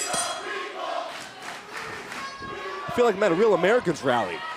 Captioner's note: bell ringing